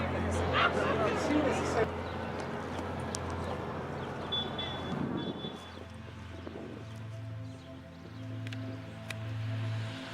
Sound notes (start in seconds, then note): 4.4 gentle music continues; 4.4 traffic droning